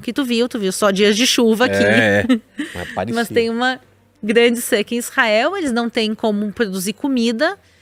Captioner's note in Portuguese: risadas